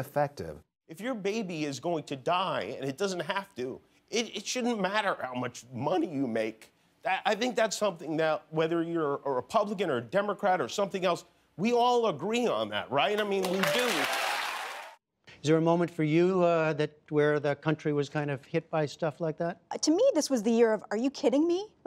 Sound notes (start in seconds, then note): 13.2 cheering and applause